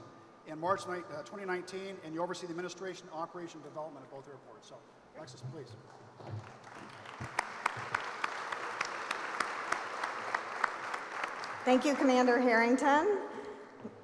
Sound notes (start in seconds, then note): 6.3 applause